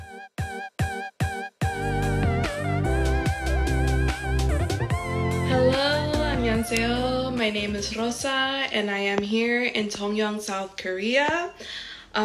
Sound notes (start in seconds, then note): 0.0 upbeat techno music; 6.1 speaks in Korean